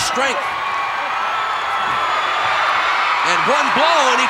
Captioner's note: audience cheering